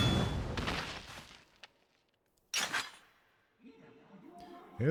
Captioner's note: gunshot